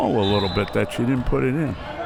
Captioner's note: whistle